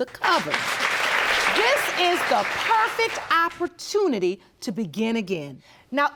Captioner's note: audience applauding